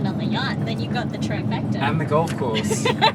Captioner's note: laughs